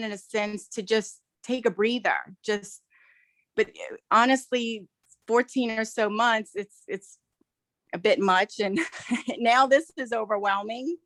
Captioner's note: laughs